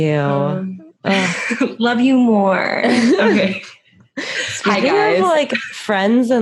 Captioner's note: laughs